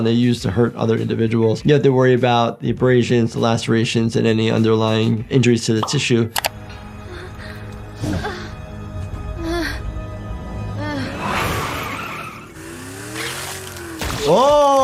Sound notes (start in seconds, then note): 7.9 Atom Eve panting; 11.1 tires squealing; 11.2 air whooshing; 13.4 body parts squelching